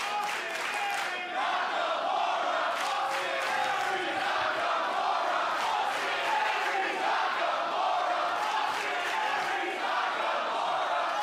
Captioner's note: crowd cheering